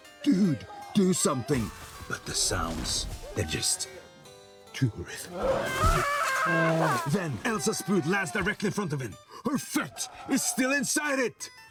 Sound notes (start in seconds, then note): 5.2 growling; 5.3 screams